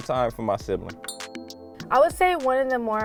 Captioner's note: glass clinking